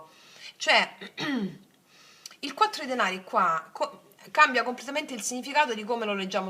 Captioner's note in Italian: schiarire la voce